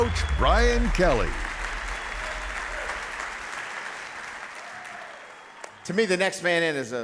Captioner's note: applause